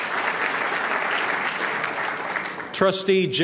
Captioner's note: applause